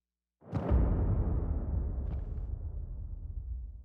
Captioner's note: thuds